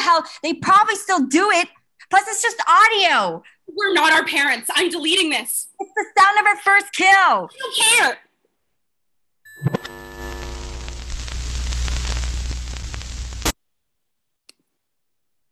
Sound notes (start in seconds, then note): 9.5 static